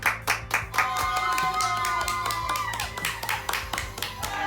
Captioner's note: applause; cheering